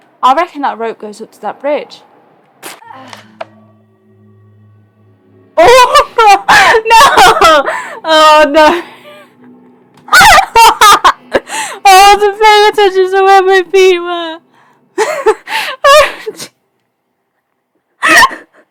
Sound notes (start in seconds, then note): 7.5 laughs hysterically